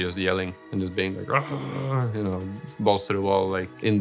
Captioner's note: growls aggressively